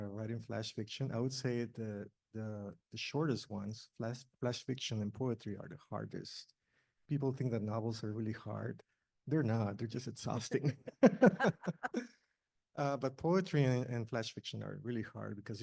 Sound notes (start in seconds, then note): 10.4 panel laughs